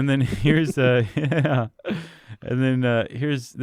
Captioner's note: laughs